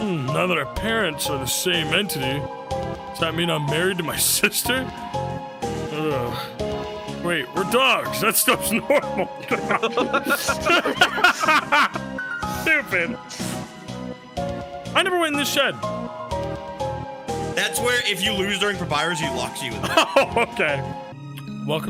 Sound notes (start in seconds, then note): 8.2 all laughing; 19.8 laughs